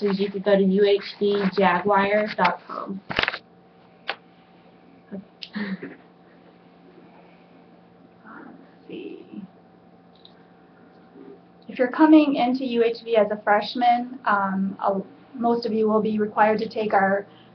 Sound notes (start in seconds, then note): 5.4 laughs; 10.1 clicking